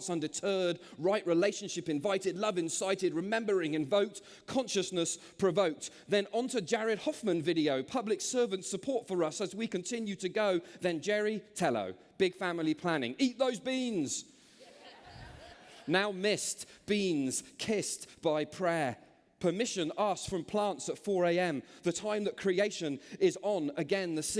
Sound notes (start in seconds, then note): 14.6 laughter